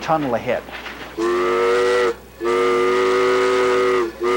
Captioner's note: whistle blowing